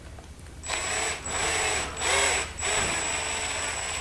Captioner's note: drill whirs